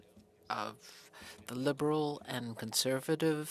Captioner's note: speaking french